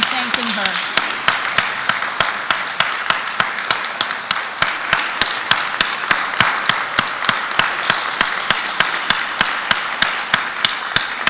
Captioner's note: applause